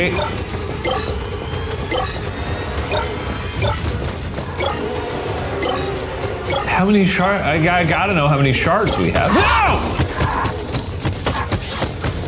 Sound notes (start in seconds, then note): 0.0 shards bleeping; 9.2 feet thumping